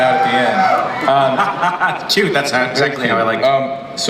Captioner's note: laughs